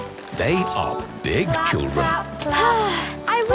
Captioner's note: Belinda sighing